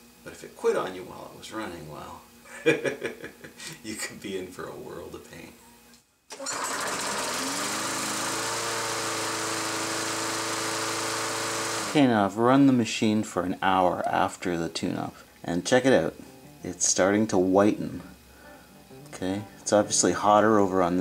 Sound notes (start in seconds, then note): 2.5 laughs; 6.3 mower starts